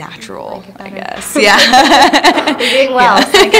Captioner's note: laughter